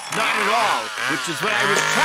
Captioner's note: chainsaw buzzing